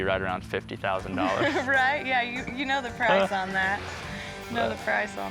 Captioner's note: laughs